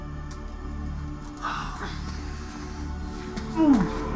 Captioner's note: sighs; groans, screams